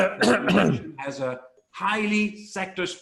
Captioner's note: clears throat